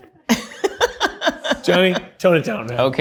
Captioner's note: all laughing